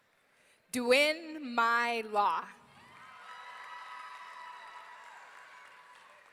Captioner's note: audience cheering